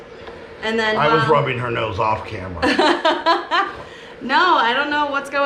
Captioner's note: laughing